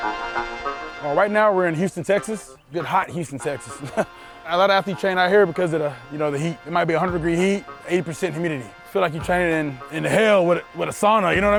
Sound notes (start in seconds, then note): 2.8 laughs